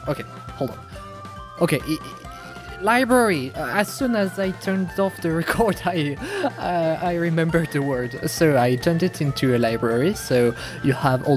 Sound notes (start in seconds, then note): 2.0 french stutter; 6.0 insert big gasp